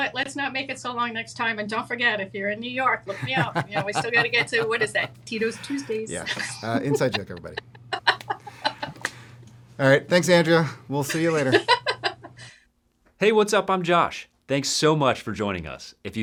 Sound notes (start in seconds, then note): 8.0 laughs